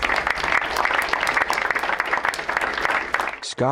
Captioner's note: crowd applauds